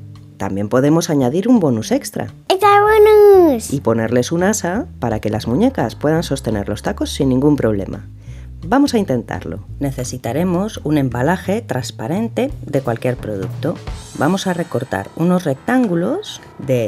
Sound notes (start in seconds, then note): none